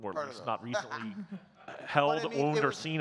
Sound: laughing

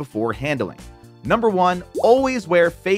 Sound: graphics popping

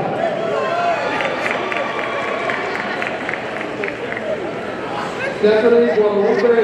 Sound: audience cheering and applauding

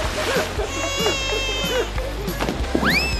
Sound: crying

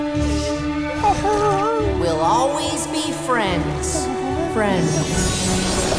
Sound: "friends" echoing

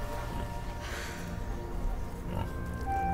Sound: Ren sighs

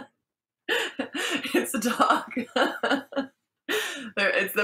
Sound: laughs

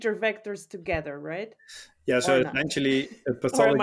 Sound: chuckles

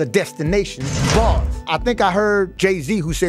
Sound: bars slamming

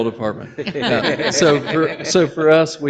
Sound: people laugh

